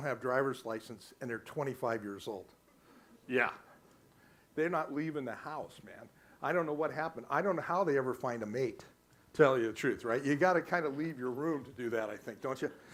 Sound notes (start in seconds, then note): none